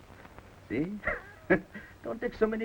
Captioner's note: chuckles